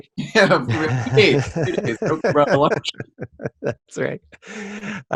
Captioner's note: microphone cuts out; laughs